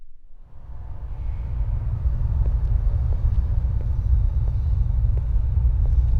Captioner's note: rumbling tones; footsteps clack